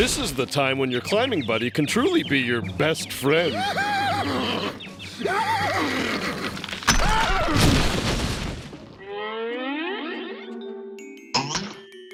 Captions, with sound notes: THIS IS THE TIME WHEN YOUR CLIMBING BUDDY CAN TRULY BE YOUR BEST FRIEND. (laughing)